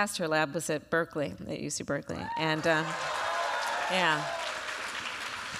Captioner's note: applause